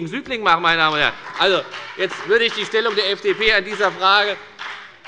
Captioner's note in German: Heiterkeit und Beifall bei der FDP